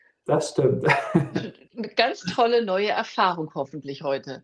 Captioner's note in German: gelächter